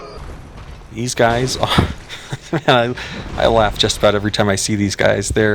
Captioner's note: laughter